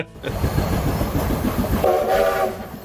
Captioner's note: laughing; train chugging; train whistle toots